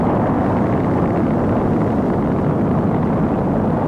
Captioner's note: rocket engines